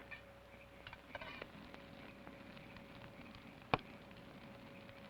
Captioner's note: fire crackles